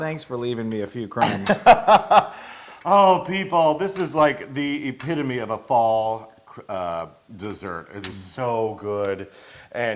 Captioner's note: laugh